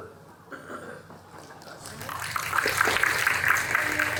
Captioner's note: audience applauding